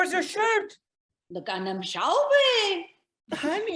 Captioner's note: speaks in foreign language